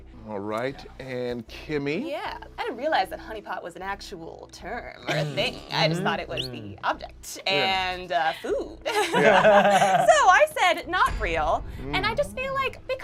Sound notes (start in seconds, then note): 8.9 laughs